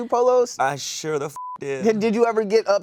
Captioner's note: beep